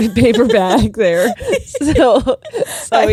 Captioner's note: giggling